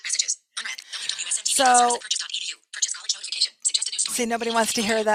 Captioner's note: iPhone chattering